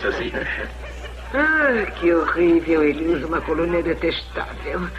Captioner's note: sighs